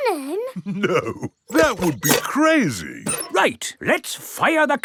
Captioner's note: chuckling